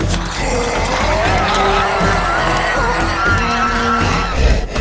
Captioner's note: creature shrieking